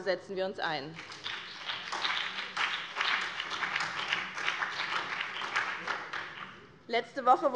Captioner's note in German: Beifall